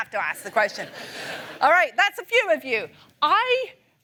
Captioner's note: laughter